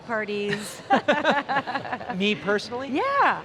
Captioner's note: laughing